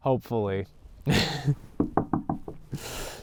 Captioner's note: laughs; knocks on wood